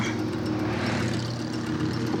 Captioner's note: grunts